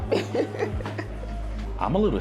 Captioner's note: laughing